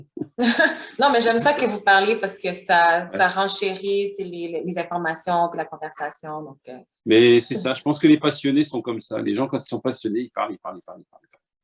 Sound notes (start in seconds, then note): 0.1 laughter